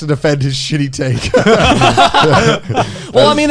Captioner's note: all laughs